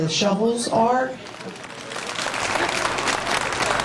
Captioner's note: applause